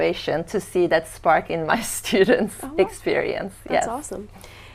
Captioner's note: laughing